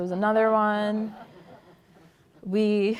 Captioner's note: laughter